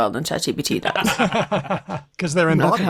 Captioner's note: laughter